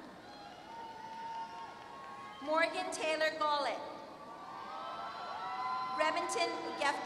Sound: applause

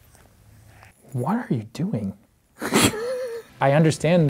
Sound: laughs

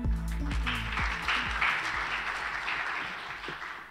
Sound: audience clapping

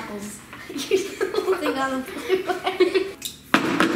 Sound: laughing

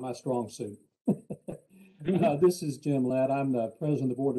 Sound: laughs

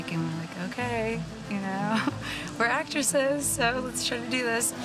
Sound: chuckles

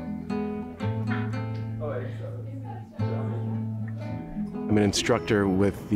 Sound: acoustic tune; group chattering

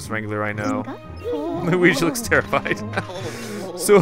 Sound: laughter

